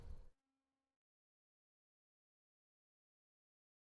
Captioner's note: none